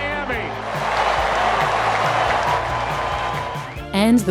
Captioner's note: cheering